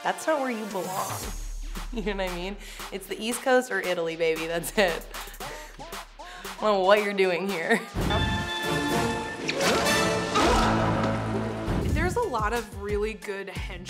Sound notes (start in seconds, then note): 4.7 chuckles; 7.8 dramatic instrumental music; 8.6 air whooshes; 10.3 Fratelli screams; 12.1 air whooshes